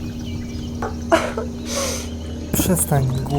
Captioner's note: crying